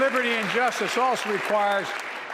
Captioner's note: applause